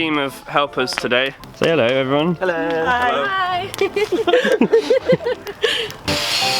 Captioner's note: all, laughing